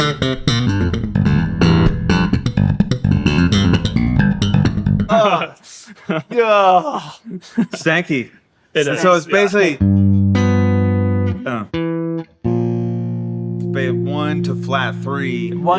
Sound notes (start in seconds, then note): 7.5 laughing; 9.7 guitar humming